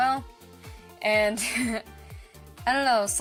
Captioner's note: chuckle